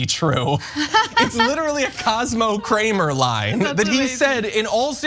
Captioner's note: laugh